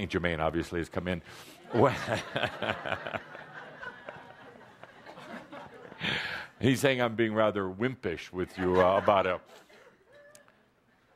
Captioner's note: laughter from audience